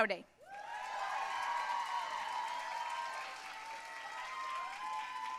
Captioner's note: audience cheering and applauding